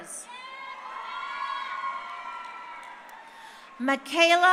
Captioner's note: crowd cheering